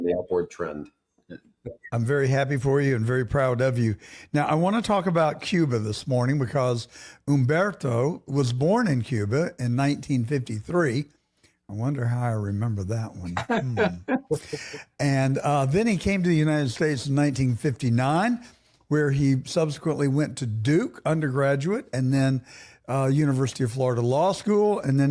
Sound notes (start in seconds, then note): 13.3 laughing